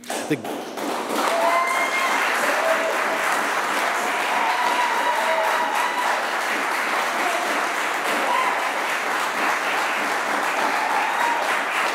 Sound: applause

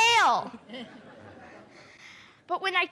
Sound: laughter

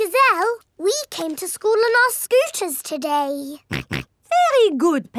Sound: snorts

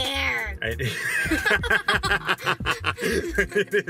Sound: laughing

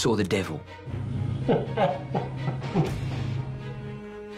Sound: laughing

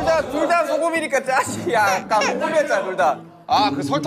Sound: crying

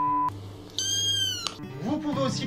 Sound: meowing

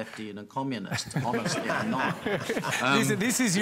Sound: laughter

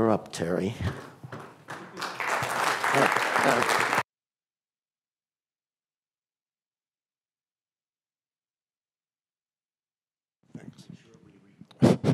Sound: applause

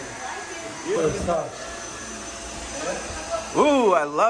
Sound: vacuum roars

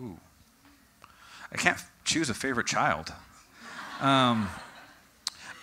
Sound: audience: Laughter

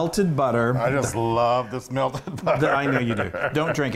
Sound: laugh

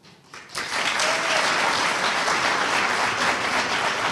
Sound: audience applauding

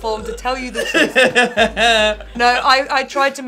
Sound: Tan laughing

